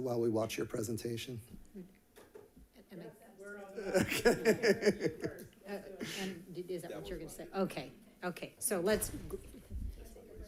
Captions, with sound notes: while we watch your presentation? - We're on first. (people laughing) - And is that what you were gonna say? Okay, okay, so let's.